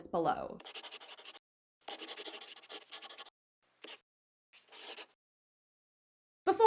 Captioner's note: the sound of a pen scratching. LOGO